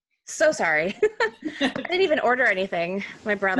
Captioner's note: laughing